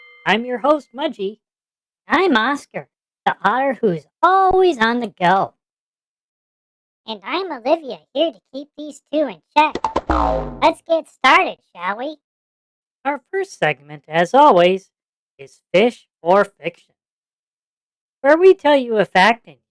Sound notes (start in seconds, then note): 1.6 in a high-pitched, excited voice; 7.6 in a calm, soothing voice